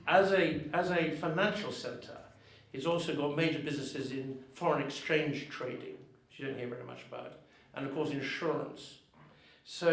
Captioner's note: none